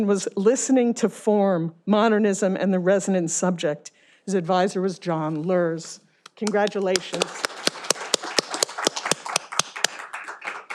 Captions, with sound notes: "Listening to Form Modernism and the Resonant Subject." His advisor was John Luers. Congratulations. (all applauding)